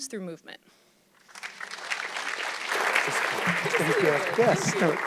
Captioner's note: audience clapping